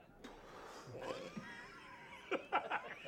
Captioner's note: blows; laughter